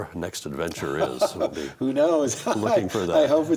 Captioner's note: laughs